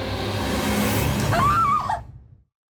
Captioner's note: Whitney screams